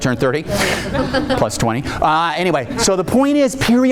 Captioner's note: audience laughing